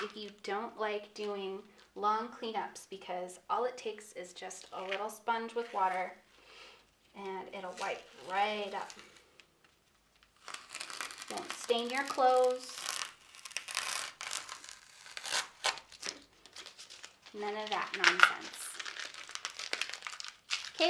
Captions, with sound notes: if you don't like doing long cleanups. Because all it takes is just a little sponge with water and it'll wipe right up. Don't stain your clothes. (masking tape rustling) None of that nonsense. (masking tape rustling)